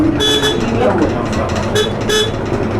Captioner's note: honking